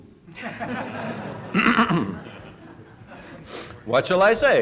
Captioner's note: laughter